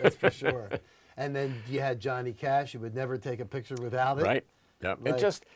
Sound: laughter

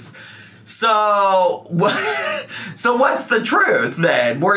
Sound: laughs

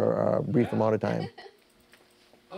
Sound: laughter

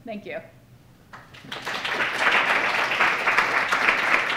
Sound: applause

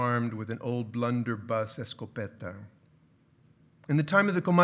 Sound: speaking in foreign language

